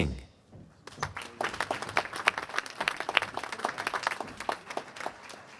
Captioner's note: applause